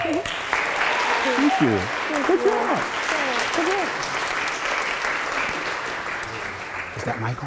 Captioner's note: applause